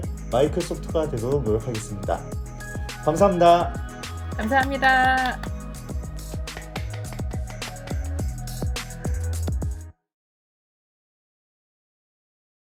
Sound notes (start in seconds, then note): 6.2 clap